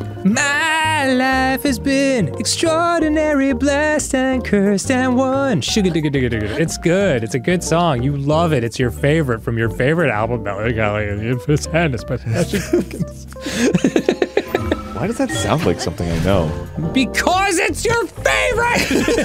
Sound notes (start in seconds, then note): 0.5 singing; 5.4 vocalising; 8.0 increasingly breathless; 12.2 laughing; 18.7 both laughing